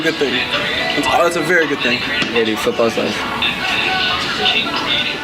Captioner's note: laughing